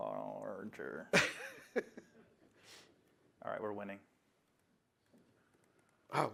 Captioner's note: laughter